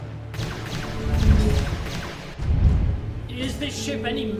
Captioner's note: lasers blasting